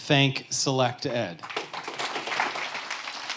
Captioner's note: applause